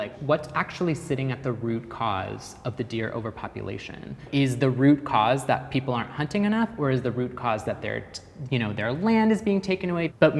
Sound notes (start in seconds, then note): none